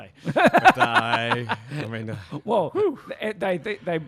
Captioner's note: laughs